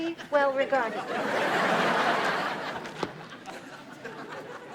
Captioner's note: audience laughs